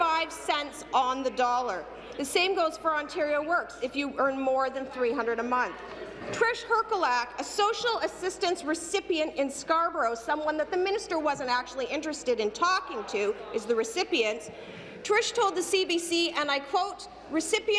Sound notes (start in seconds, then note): none